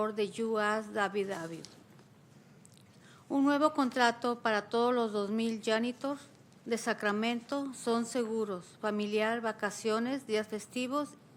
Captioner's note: speaking spanish